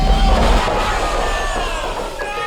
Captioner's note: crowd booing